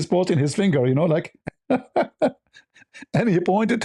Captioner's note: ketawa